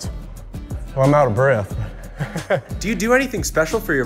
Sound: laughs

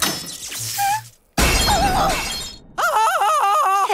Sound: screaming

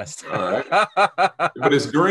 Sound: laughs

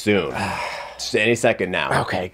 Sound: Chef sighs

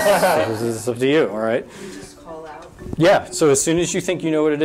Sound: audience laughter

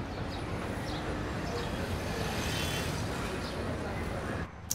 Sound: city ambience

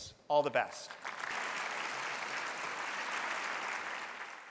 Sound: applause

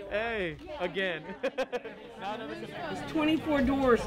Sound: laughing

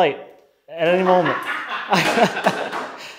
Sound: laughing

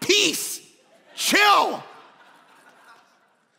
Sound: congregation laughing

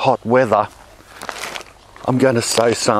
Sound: package crackles

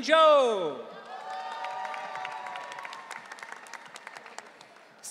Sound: audience cheering

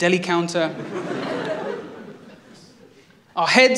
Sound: laughter

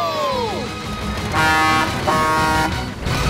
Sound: honking

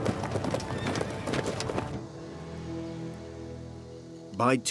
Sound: horse neighing

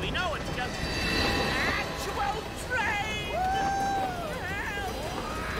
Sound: exclaiming

